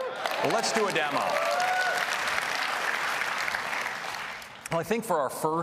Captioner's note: applause